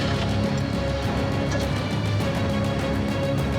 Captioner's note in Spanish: sonido del motor